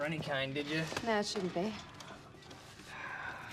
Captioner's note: sighs